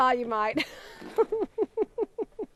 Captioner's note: laughing